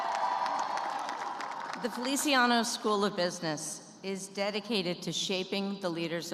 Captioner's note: cheers and applause